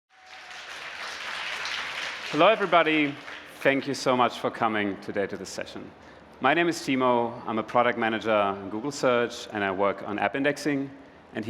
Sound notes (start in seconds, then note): 0.1 applause